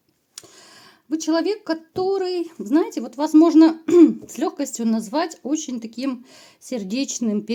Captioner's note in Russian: откашливается